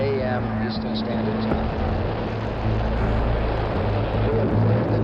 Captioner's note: rocket roaring